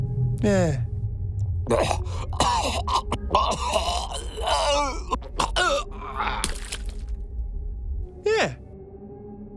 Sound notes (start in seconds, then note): 1.6 gagging